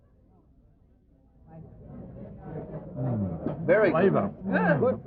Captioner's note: restaurant chatter